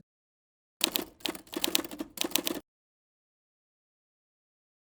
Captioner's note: keyboard typing